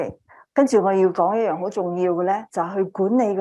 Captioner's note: speaking chinese